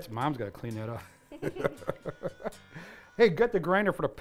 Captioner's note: laughing